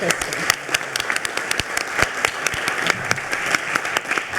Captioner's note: attendees applauding